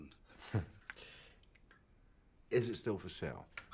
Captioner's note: Rob chuckles